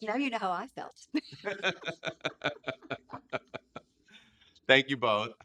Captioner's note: laughing